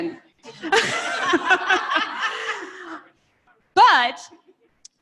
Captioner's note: laughter